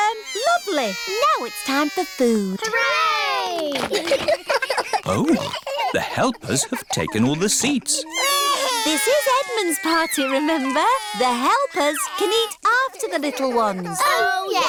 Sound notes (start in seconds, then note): 4.5 giggles; 7.9 babies crying